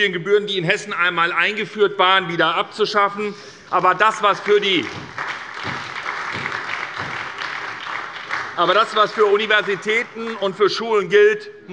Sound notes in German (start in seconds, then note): 4.0 Beifall bei der SPD